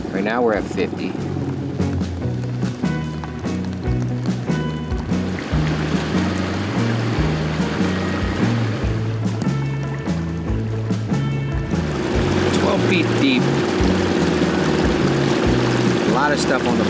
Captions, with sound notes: Right now, we're at 50. (upbeat music continues) (rain splattering) (upbeat music continues) (engine droning) (upbeat music continues) (rain splattering) 12 feet deep, a lot of stuff on the bottom here.